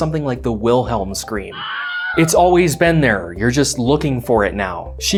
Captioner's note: Wilhelm scream